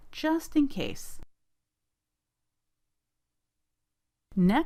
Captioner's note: silence